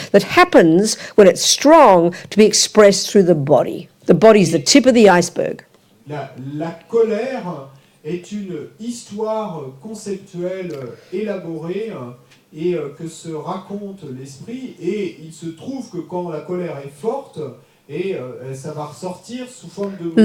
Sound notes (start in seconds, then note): 6.1 audience member speaks in French